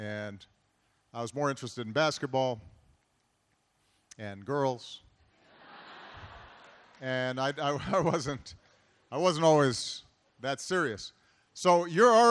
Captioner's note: laughter